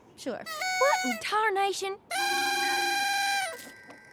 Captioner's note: party horn blowing